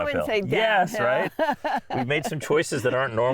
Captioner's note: laughing